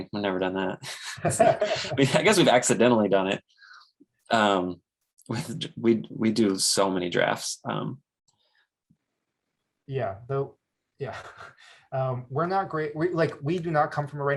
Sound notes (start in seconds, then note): 0.8 laughs; 0.8 chuckles; 11.7 chuckles